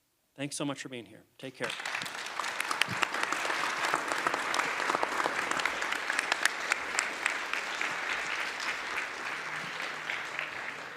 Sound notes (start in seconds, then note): 1.6 applause